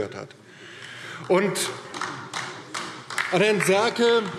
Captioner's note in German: Beifall DIE LINKE